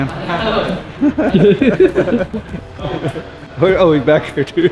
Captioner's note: laughs